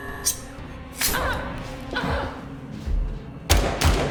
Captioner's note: Claire groans; knife flicks; gunshots banging